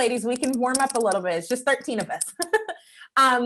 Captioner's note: laughing